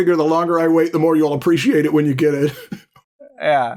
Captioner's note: chuckles